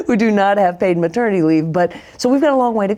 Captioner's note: laughs